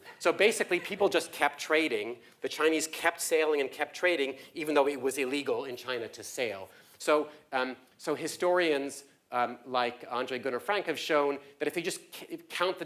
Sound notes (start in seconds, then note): 1.1 laugh